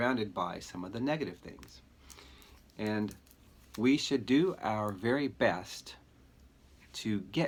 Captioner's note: straw cracking